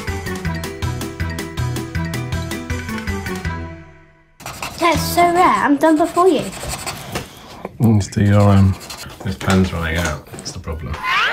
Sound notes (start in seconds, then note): 6.9 pen scratching